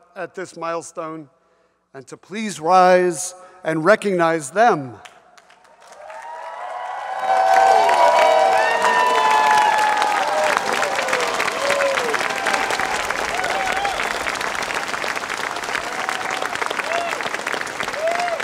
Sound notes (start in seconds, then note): 6.0 audience applauds and cheers